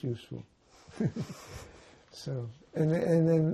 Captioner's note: laughing